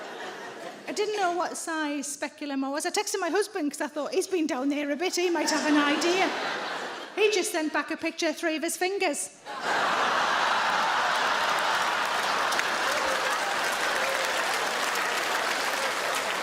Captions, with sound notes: I didn't know what size speculum I was. I texted my husband 'cause I thought he's been down there a bit. He might have an idea. (audience laughs) He just sent back a picture, three of his fingers. (audience laughs and applauds)